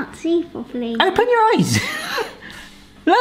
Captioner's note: laughing